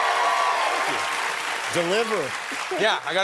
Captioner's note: applause